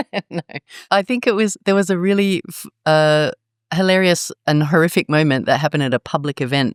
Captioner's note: laugh